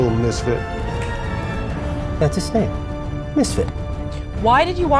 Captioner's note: fingers snapping